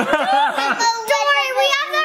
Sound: all laughing

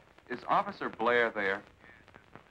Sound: on phone

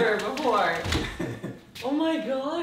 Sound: laughing

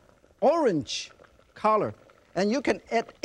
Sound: water gurgling

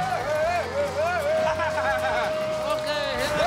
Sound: laughs

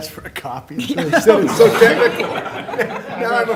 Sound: laughter

